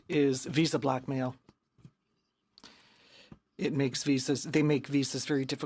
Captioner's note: speaking in french